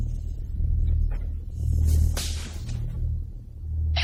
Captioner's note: electricity crackles